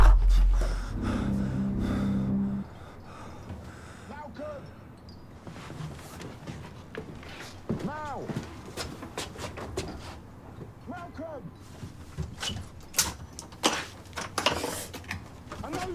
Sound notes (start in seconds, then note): 0.0 dramatic music; 0.1 Sonny shouts; 3.6 Malcolm breathing heavily